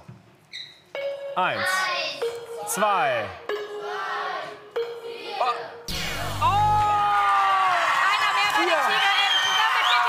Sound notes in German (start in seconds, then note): 6.5 Jubel